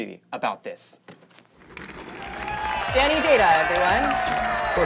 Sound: audience cheering

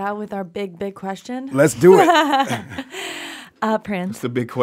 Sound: laughs

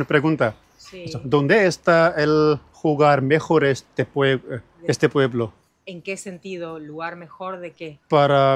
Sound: speaking in Spanish

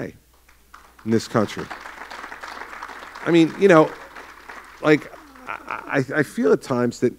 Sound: applause

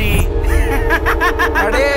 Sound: laughs

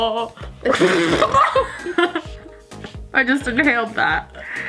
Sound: laughing

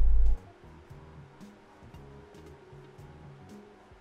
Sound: room Fan running

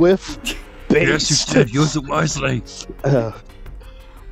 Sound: hunter voice; Gnasty voice

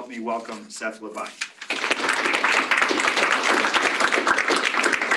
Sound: applause

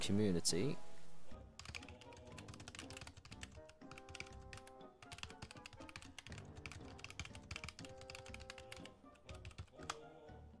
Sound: over the top keyboard noises

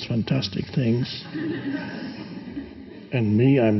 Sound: audience laughing

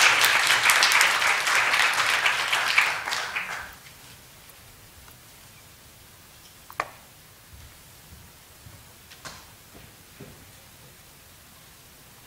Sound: clapping

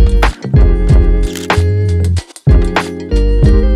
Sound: camera shutter clicks

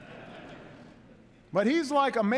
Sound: laughter

